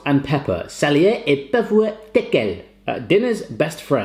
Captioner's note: speaking foreign language